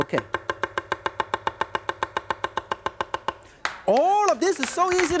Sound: fast chopping

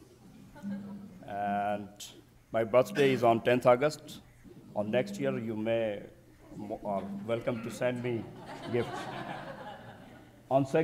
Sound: audience titters

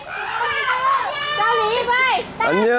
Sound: laughing

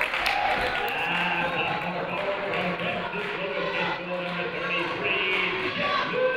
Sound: crowd applauding; muffled voice speaking over speaker

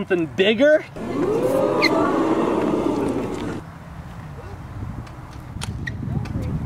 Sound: audience exclaiming amazement

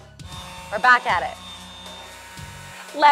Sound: whirring

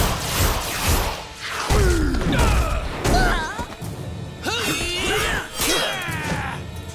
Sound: grunting

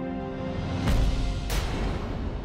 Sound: atmospheric sound

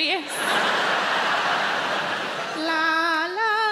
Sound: audience laughing

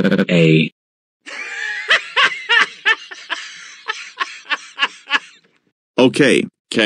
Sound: goanimate laugh sound

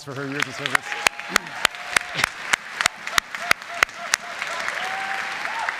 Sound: congregation cheers and applauds

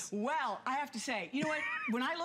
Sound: laughter

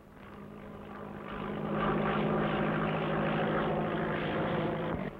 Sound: airplane engine rumbling

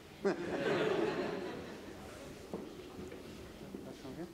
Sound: audience laughs

